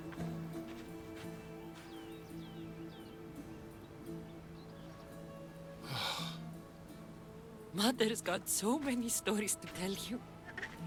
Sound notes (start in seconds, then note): 5.8 exhale